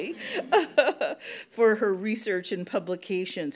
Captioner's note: audience chuckles; laughs